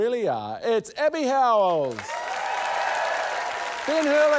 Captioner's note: cheering, applause